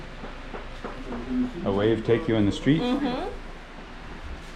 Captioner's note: mhmm